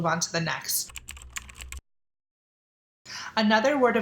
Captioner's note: keyboard typing